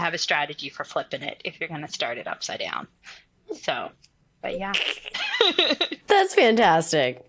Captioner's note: laughs